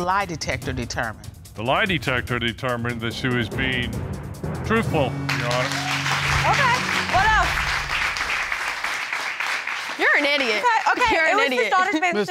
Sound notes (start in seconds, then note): 5.2 audience cheering